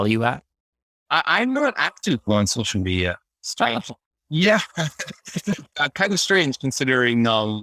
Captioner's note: laughs